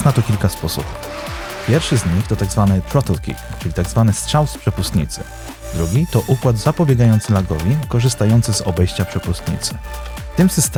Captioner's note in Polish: Strzał z przepustnicy